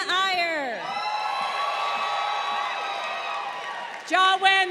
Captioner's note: crowd cheering